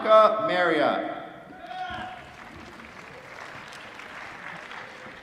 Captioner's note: applause